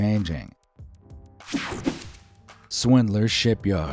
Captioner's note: graphics whooshing